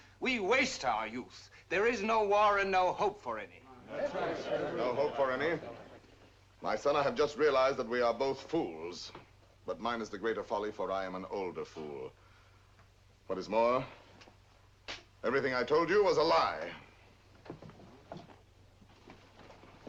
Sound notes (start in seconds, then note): 3.6 general assent